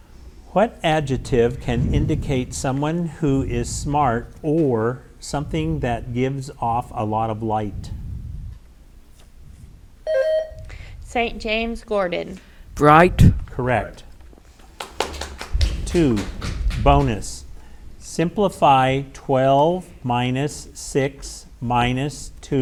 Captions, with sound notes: What adjective can indicate someone who is smart or something that gives off a lot of light? (buzzer rings) - St. James, Gordon. - Bright. - Correct. (audience applauds) Two, bonus. Simplify 12 minus 6 minus 2 plus 3.